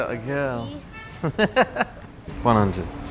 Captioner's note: laughs